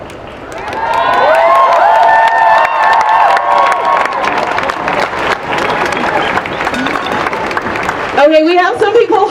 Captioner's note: cheering and applause